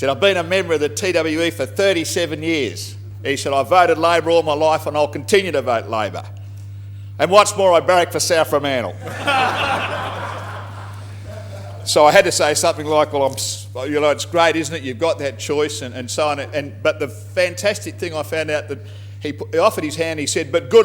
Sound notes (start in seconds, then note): 9.0 laughter